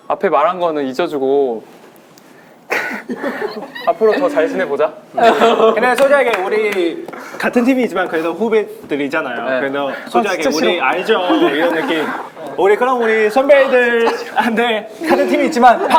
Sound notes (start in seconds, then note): 2.7 laughing